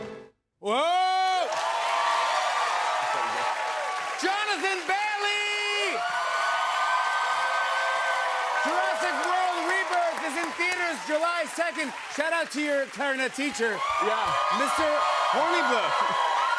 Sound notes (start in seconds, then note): 1.2 cheers and applause; 5.8 cheers and applause